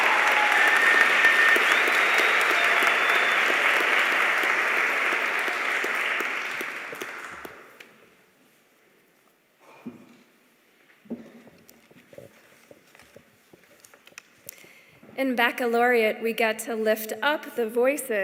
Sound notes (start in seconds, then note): 6.1 cheers and applause